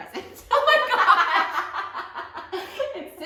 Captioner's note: laughter